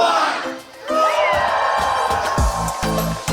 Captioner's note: crowd Cheering